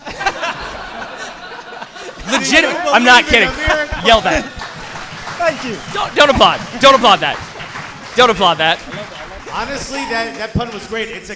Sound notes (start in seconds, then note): 0.2 audience and hosts laughing; 4.8 audience cheering